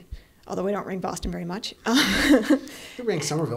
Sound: laughing

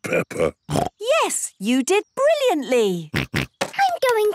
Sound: snorts

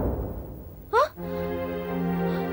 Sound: gasps

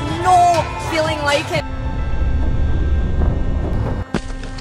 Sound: rumbling

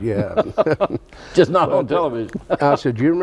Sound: laughs

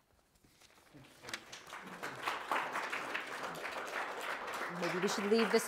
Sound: audience applauding

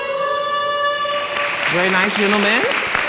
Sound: applause

